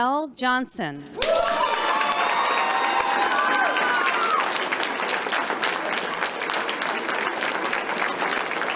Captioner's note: claps